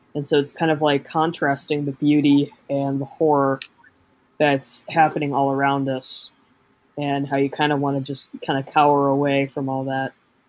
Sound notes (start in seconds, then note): none